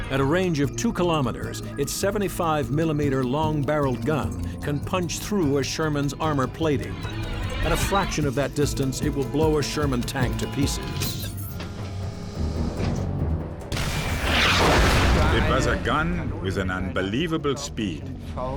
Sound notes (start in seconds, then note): 11.5 tank turret whirring; 13.6 tank turret firing; 13.7 shell exploding